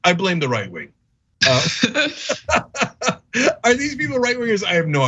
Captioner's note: laugh